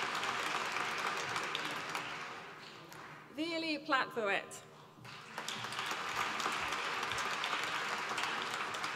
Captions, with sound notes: Veerle Platvoet. (APPLAUSE)